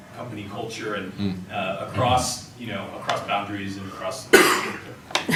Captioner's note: man coughs